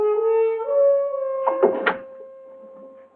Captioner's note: door locking